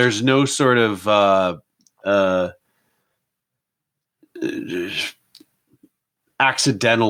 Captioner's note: stammering